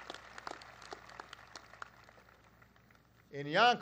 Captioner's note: applause